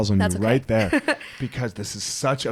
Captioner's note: laughs